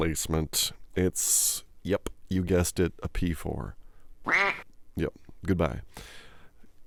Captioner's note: quack Sound